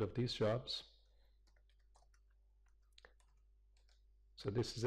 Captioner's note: pause